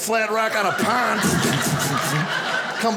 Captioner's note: imitates splashes